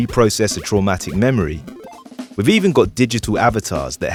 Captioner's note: triumpant game SFX